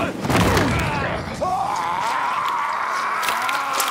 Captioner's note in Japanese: うめき声